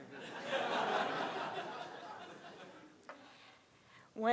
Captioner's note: crowd laughing